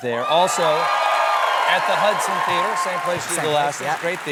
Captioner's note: cheers and applause